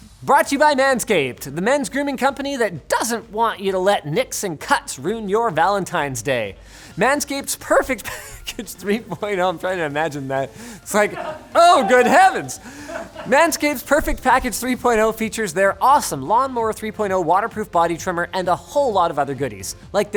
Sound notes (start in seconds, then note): 8.0 laughing